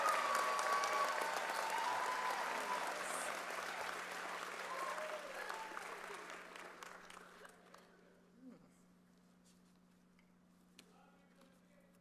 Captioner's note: cheers and applause